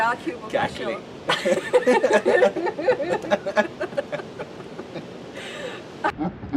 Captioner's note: laughter; slo-mo laughter